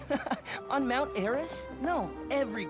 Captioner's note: chuckle